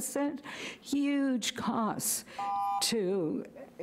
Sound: buzzer rings

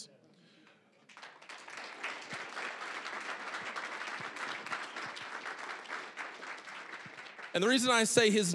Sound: applause

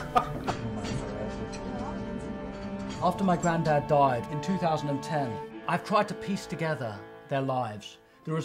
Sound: laugh

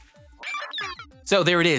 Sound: digital sounds

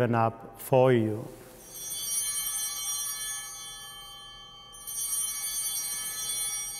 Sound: chimes ringing

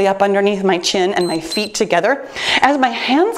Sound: timer beeps

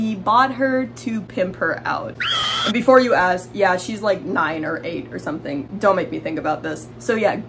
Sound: screaming sounds

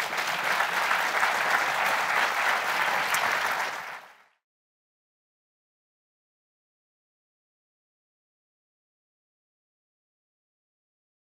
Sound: applause

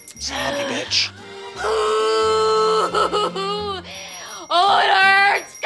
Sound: dee cries

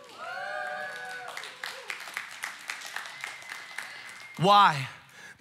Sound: congregation cheering and applauding

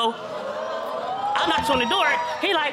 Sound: audience exclaiming

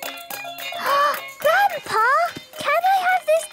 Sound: upbeat music; gasps

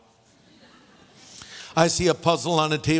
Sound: audience laughing

